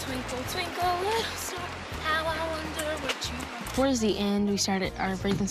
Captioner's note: breathing rapidly